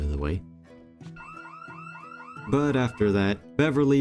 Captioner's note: house alarm ringing